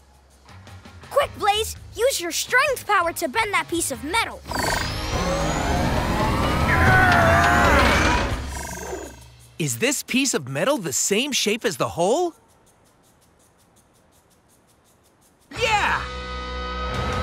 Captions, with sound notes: Quick Blaze, use your strength power to bend that piece of metal. [grunting] Is this piece of metal the same shape as the hole? Yeah.